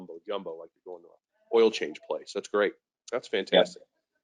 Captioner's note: speaking faintly